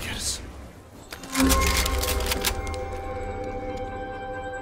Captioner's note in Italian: Rumore di armi cariche